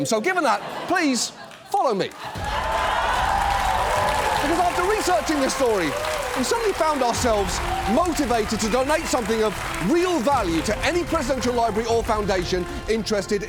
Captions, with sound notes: So given that, please follow me. (AUDIENCE LAUGHS, CHEERS) Because after researching this story, we suddenly found ourselves motivated to donate something of real value to any presidential library or foundation interested